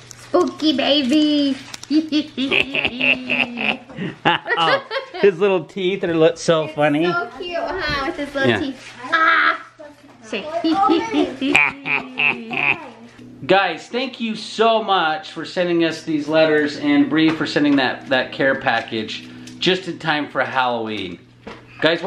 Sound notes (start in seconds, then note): 2.0 laugh evilly; 11.4 laughs evilly